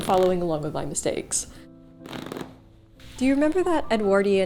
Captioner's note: stitches ripping